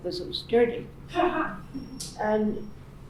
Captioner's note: laughing